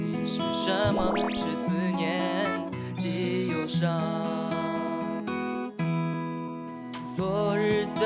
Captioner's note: tearing up